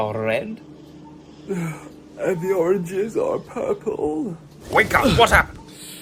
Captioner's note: yawn